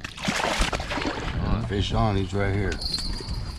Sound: fish splashing; jangling

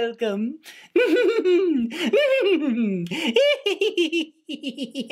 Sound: growing laughter

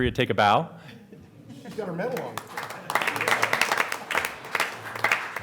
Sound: applause

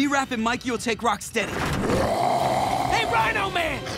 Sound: growling

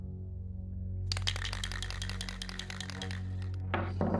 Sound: spray paint can shaking

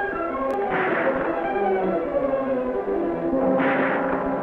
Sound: guns firing

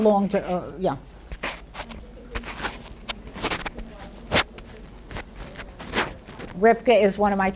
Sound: scratching on microphone drowns out question

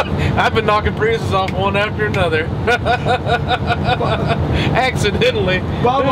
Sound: chuckles; snapping fingers; laughs

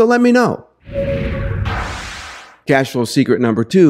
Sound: dynamic crashing

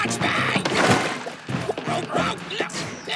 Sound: rocket grunting

